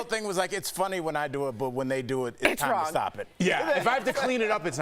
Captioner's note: laughter